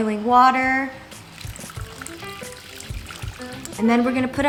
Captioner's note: burbling